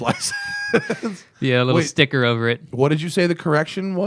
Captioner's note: laughter